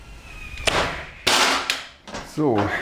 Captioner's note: clattering